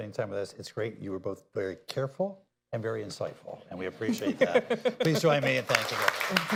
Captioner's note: laughter